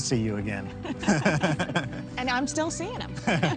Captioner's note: both laugh